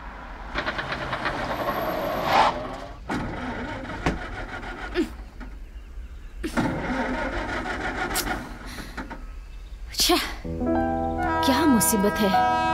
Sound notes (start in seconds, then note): 2.0 brakes screeching; 3.0 car engine rattling